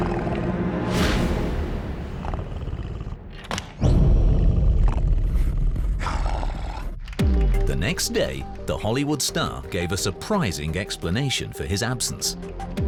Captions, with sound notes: [snorting] The next day the Hollywood star gave a surprising explanation for his absence.